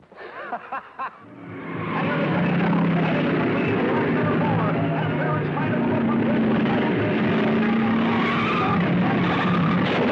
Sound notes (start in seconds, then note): 0.2 racer laughing; 1.2 cars revving; 1.6 announcer shouting; 8.4 tires squealing